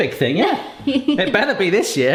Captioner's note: laughs